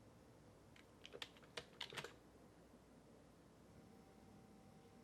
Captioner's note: keys clicking